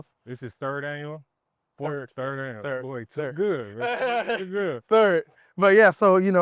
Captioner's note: laughing